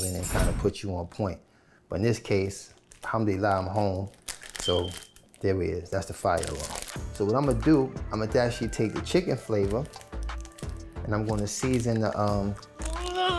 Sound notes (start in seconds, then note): 4.6 fire alarm beeps; 13.1 man grunts